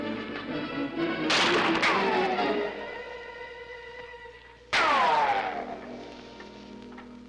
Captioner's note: intense orchestral music; guns firing; bullets ricocheting